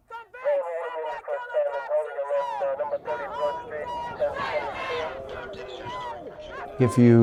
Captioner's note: protests, shouting